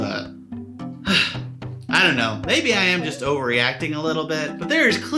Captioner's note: sighs